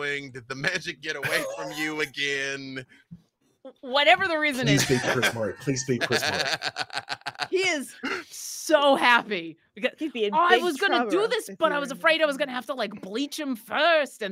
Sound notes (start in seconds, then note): 4.6 laughing